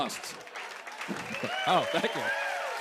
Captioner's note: cheers and applause